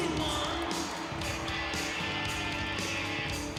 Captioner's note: audience cheers